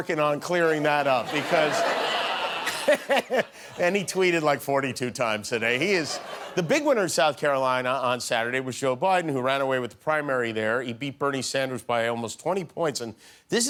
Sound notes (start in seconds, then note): 4.7 laughter